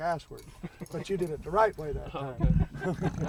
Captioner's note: laugh